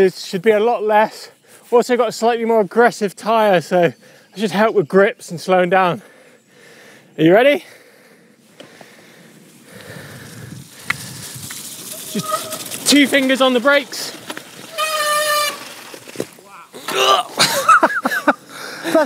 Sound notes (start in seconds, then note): 15.0 brakes squeaking; 17.3 laughter